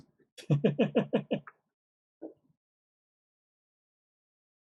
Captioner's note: laughs